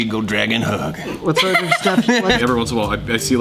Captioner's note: laughs